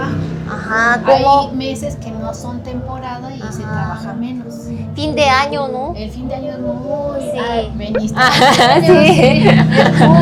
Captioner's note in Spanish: risas